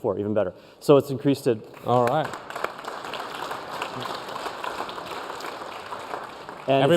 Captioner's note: applause